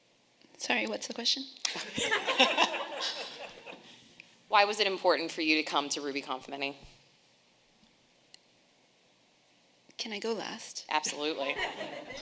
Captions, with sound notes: - Sorry, what's the question? (audience laughing) - Why was it important for you to come to RubyConf Mini? - Can I go last? - Absolutely.